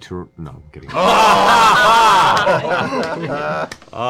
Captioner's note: laughter